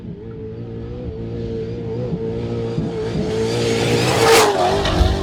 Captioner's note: car engine revving